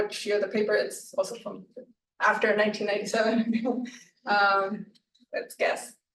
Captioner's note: chuckles